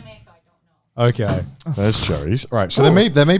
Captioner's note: thuds